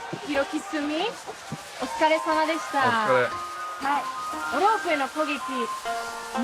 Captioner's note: speaking in foreign language